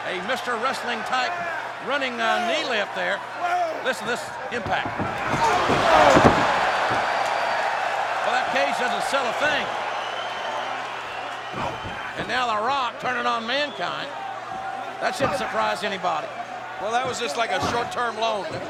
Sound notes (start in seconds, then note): 5.7 body rattling